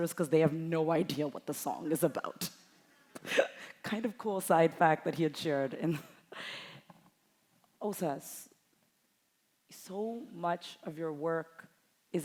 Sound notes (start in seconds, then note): 3.2 chuckles